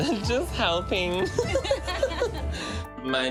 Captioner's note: laughter